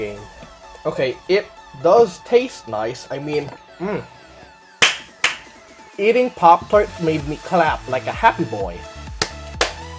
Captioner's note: claps; claps again